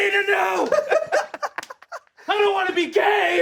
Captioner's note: all laughing